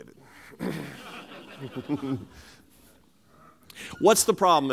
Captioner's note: laughter